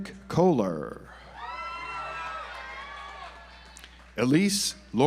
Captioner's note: audience applauds